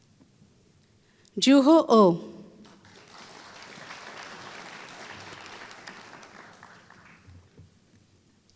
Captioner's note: applause